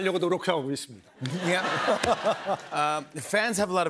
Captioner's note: laughter